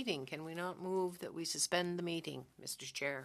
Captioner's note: speaking French